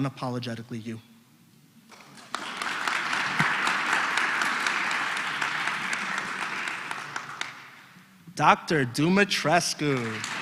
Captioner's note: applause; applause